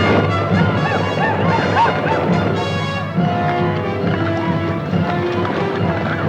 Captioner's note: Apaches howl; dramatic orchestral music